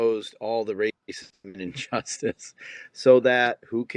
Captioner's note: laughing